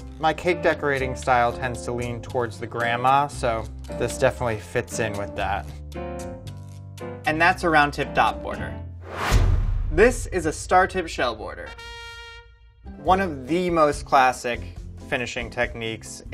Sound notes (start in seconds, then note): 9.0 whooshing; 11.6 trumpet blares